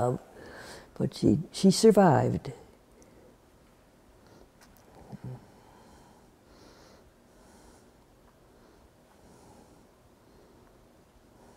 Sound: laughs

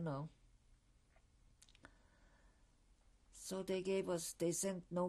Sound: pauses for 3 seconds

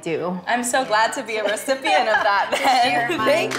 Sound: Melissa laughs

